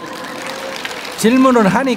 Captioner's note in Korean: 청중 박수